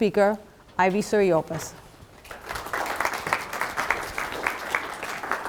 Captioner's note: audience applauding